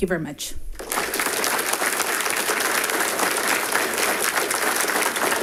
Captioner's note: audience applauding